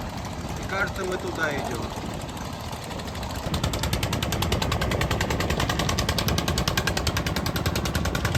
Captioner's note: engine roaring